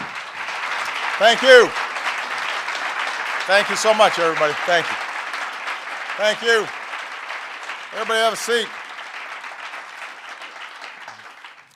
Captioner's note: applause